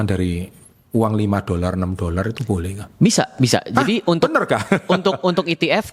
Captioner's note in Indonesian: tertawa